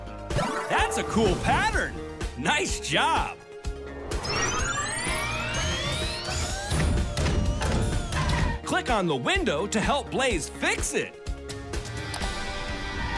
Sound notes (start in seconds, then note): 4.1 beeping